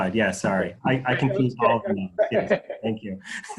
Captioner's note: laughs